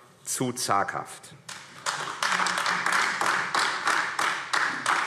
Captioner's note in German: Beifall AfD